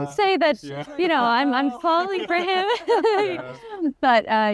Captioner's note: laughs